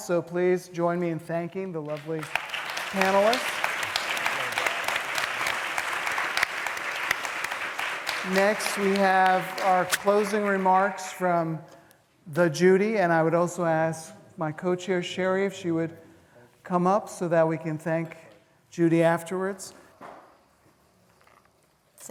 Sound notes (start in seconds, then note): 3.8 applause